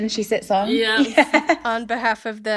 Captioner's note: laughing